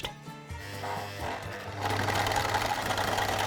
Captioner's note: machine noises